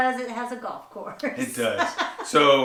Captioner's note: laughs